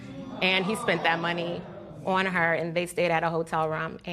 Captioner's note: spectators exclaim